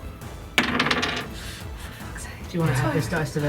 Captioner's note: whispered